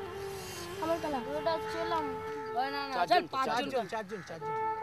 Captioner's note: Indian spoken audio